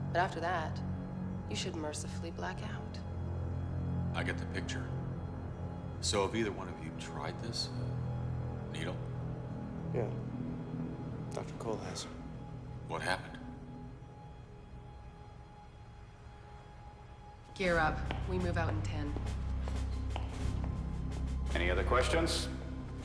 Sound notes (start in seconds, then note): 19.1 footsteps tapping